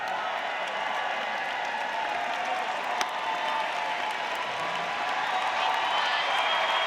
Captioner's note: audience applauding; audience cheering